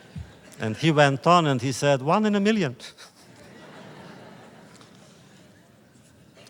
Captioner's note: laughter